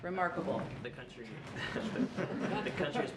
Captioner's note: laughter